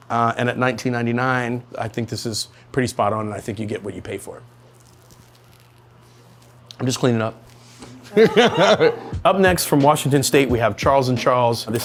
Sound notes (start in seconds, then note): 8.0 laughs; 8.5 crew laugh